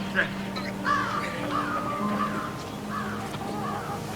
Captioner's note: cawing of crow